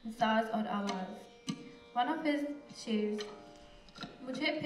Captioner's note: non-english speech